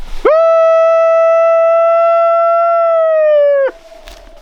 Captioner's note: howling